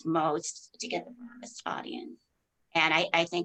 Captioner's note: mic cracking